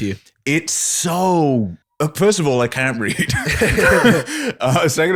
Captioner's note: laughter